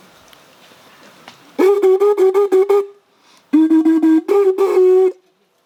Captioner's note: sound of the Horn